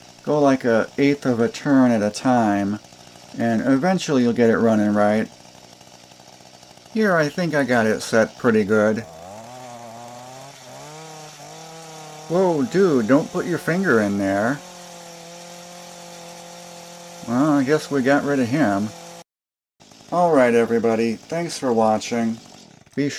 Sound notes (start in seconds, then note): 9.5 engine revving sounds; 14.8 engine revving sounds